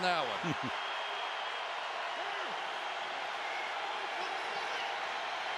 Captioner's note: crowd cheering